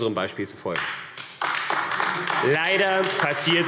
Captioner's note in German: Beifall AfD